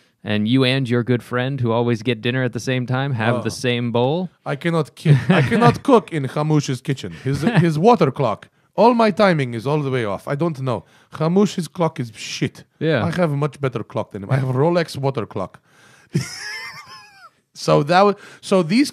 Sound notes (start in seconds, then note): 4.5 imitating Middle Eastern accent; 13.8 imitating Middle Eastern accent